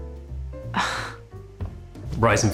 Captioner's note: sighs